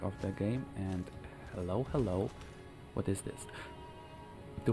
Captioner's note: gasps